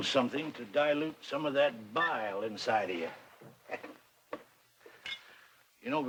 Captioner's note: chuckles